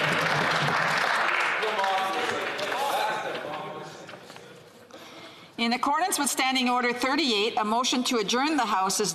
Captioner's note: applause